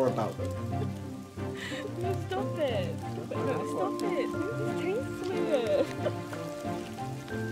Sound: distant giggling

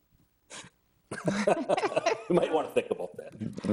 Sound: both laughing

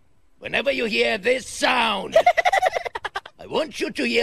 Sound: silly laugh

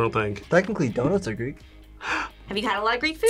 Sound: gasps

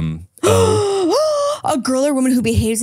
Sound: gasping

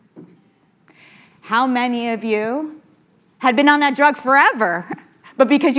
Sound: chuckles

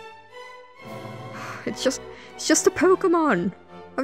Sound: sigh

